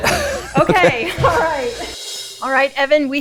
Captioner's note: laughing